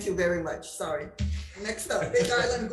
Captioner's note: laughs